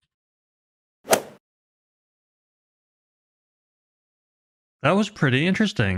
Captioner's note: golf ball hit sound effect